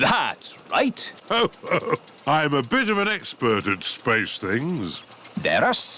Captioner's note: chuckles